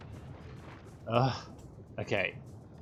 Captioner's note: platonic sigh